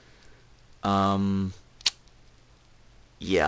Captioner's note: lip smack